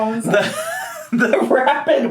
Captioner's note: laughs